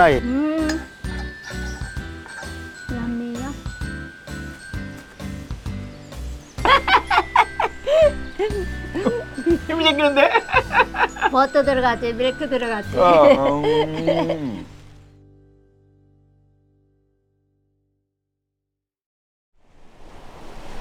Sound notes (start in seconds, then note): 6.6 both laughing